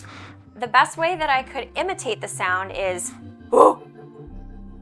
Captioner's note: grunting